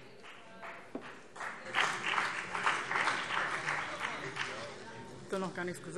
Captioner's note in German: Beifall BÜNDNIS 90/DIE GRÜNEN